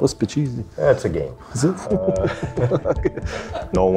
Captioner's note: laughs